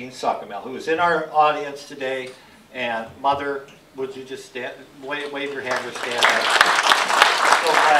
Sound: applause

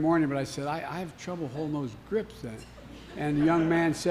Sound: laughter

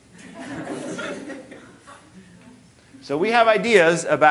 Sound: audience laughing

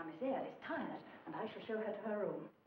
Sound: speaking in foreign language

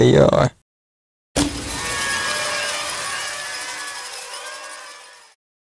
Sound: confetti pops

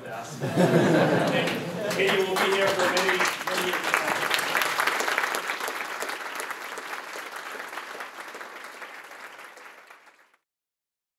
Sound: applause

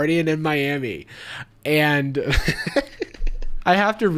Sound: laughs

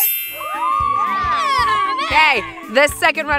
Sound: kids cheering

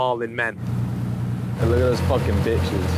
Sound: boat engine whirring

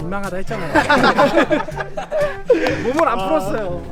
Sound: hahahahahahaha

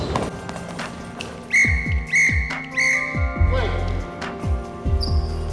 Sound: whistle 3 times

